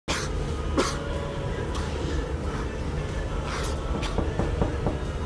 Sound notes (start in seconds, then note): 0.7 cough; 3.9 knocking